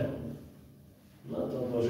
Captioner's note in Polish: none